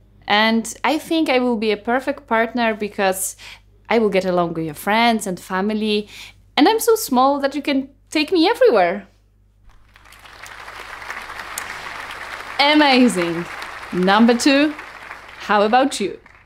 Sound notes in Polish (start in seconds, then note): 9.6 oklaski